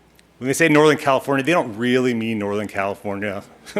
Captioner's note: chuckling